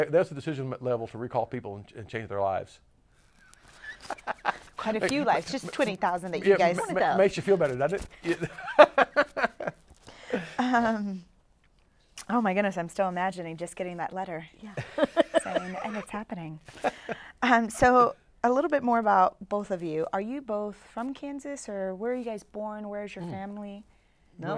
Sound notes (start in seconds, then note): 3.5 laughs; 8.2 laughs